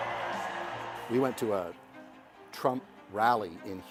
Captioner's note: crowd cheering